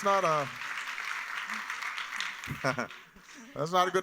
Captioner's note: laughter